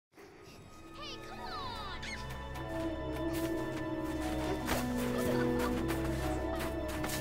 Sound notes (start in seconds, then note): 2.5 kids playing in the distance; 4.0 sfx: footsteps in snow